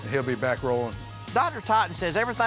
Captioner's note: none